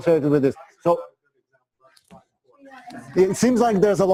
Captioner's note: pause